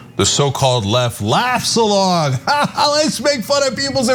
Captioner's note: laugh